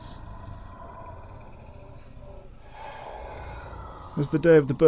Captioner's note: deep, threatening growl